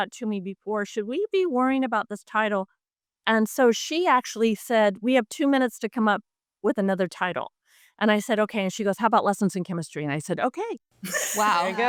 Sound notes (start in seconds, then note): 11.0 laughs